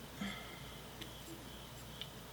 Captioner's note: sighs